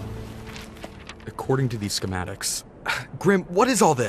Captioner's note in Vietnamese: insert tiếng thở dài